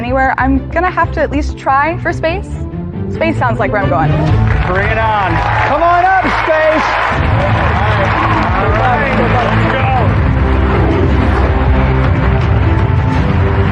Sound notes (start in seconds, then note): 7.1 cheering and applause; 7.1 dramatic music